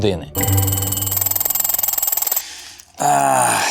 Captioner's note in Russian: Звенит будильник